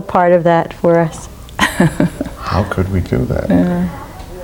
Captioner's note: laughs